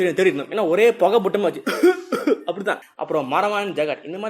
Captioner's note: coughs